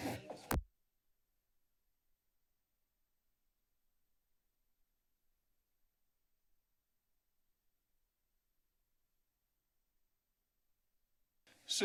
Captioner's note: silence